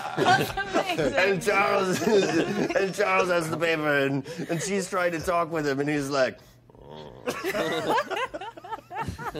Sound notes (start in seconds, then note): 6.7 grumbling